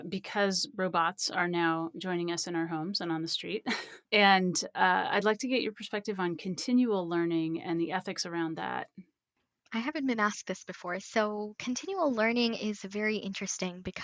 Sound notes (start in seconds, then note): 3.7 laughs